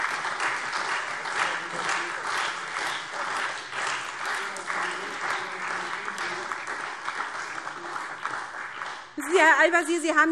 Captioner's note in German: Heiterkeit und Beifall SPD und Freie Demokraten